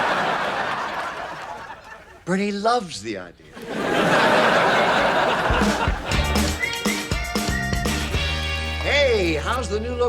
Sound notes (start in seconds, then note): 3.5 audience laughs; 4.7 upbeat music